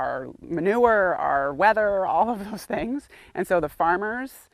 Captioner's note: laughs